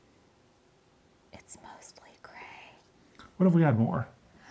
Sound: whispers; gasps

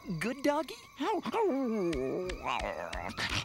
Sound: whimpers

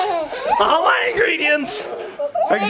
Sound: children giggling

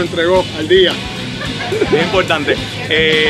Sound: laughs

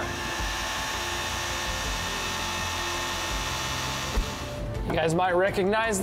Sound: jaws whirring mechanically

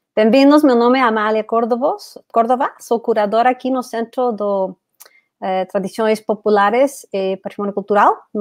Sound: speaks portuguese

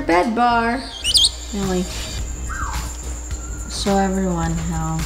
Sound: chirps

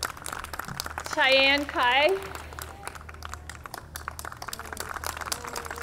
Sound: audience clapping

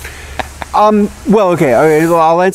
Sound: laughs

